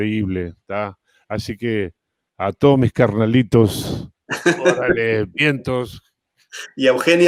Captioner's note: Risas